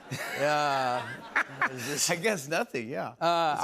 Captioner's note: laughs